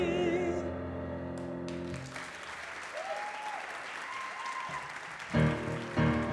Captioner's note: audience applause